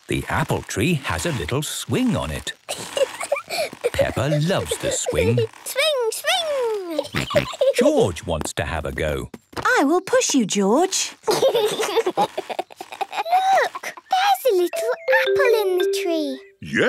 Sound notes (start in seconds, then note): 2.6 giggling; 6.8 giggling and snorting; 11.2 George giggling